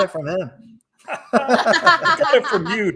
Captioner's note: everybody laughing